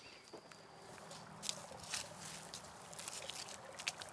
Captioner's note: grass crunching; water sloshes